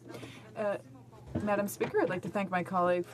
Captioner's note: speaking French